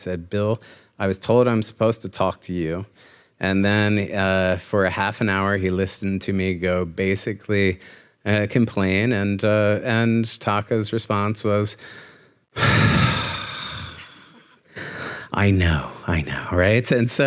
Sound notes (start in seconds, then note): 12.5 sighs